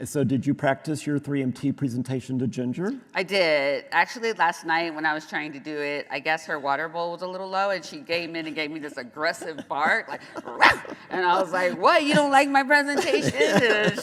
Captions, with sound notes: - So did you practice your 3MT presentation to Ginger? - I did, actually last night when I was trying to do it, I guess her water bowl was a little low, and she gave me this aggressive bark like, (barks) and I was like, "What? You don't like my presentation?"